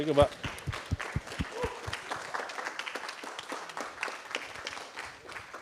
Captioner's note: applause